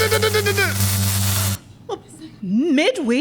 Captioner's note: electrocuted sounds